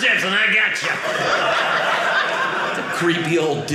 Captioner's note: audience laughing